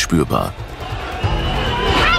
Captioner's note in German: Stimmengewirr; kreischend